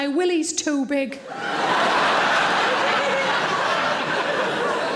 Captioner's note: audience laughing